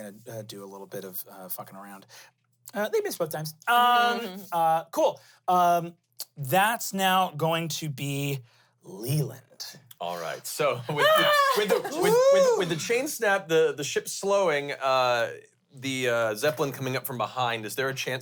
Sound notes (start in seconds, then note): 10.9 yells